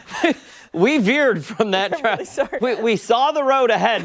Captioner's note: laughter